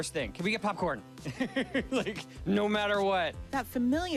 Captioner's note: laughing